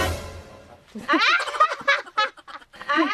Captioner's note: laughing